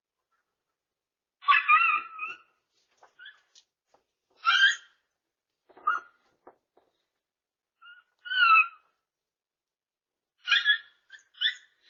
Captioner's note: Ella continues barking and howling